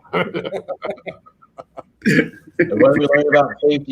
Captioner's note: all laugh